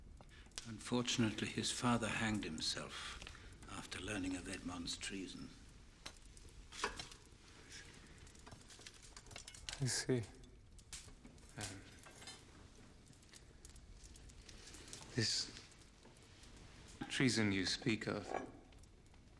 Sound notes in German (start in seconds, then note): 7.2 flüstert